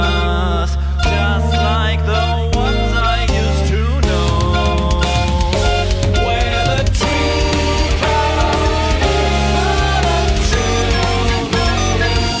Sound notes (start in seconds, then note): none